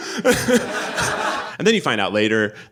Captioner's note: audience laughing; laughs